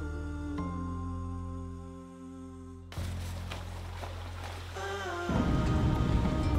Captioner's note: gentle music; water gently crashing